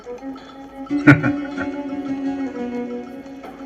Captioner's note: chuckling